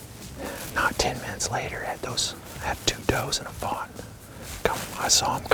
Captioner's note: whispering